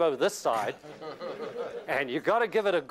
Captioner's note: laughter